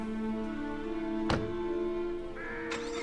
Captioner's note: car door shuts closed; engine starts